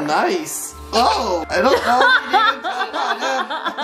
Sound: laughing

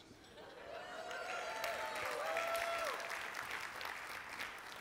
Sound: audience applauds

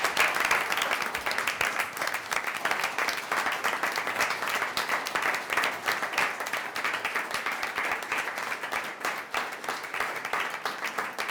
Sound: applause

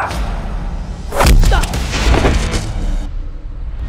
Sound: thud

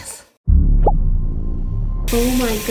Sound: menacing sound

